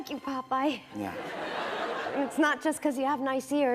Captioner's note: laughter